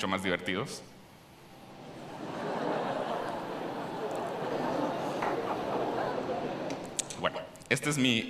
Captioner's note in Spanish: Risas